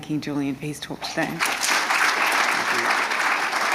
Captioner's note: attendees applauding